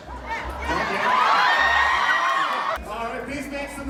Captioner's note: crowd screams